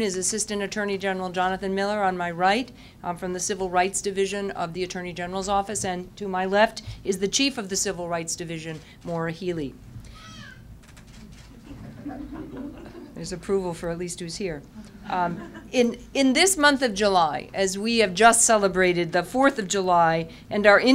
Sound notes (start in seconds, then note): 11.8 sound of infant crying, laughter; 15.0 laughter